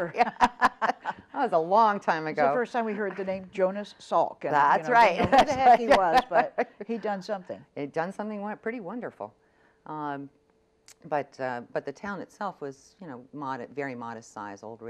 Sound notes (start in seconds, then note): 4.9 laughs